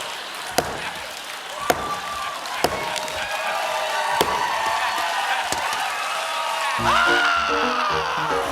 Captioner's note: cheers and applause; banging